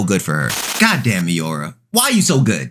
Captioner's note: TV static running